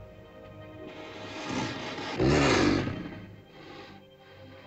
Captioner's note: ominous music; dinosaur growls; sentimental music